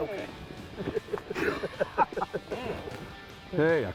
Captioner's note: laughing